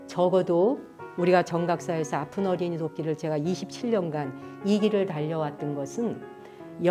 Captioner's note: speaking in Korean